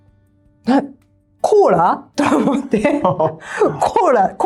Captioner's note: laughs